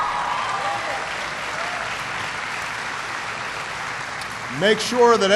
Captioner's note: applause